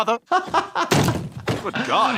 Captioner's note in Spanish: riendo